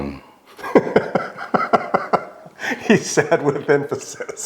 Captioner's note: laughing